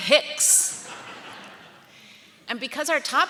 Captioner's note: audience laughing